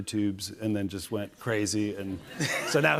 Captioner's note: laughter